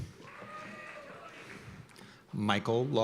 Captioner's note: cheers and applause